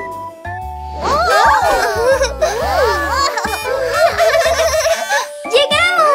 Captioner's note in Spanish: Risas; Sonido de bocina